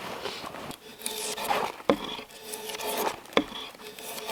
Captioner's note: metal scraping